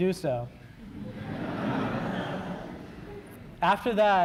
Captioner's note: laughter